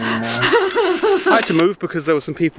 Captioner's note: laughs; fire crackles